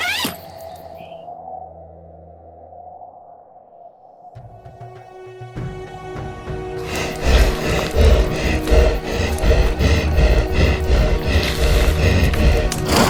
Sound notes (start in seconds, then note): 0.7 wind howling; 5.0 tense music; 6.7 creature breathing loudly